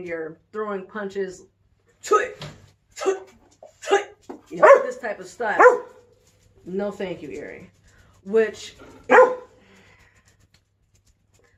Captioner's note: makes Karate noise, dog barks